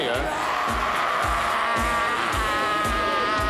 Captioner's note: screams